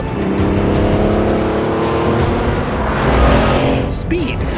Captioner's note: engine revs